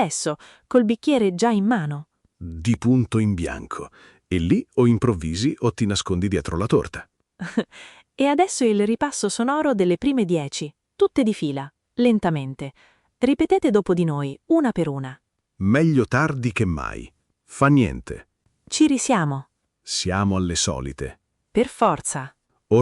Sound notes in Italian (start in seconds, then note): 7.5 Haha